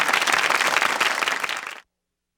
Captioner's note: audience clapping